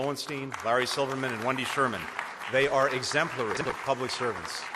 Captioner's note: applause